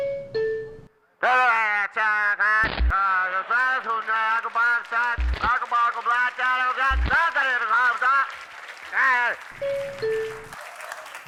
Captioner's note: static noises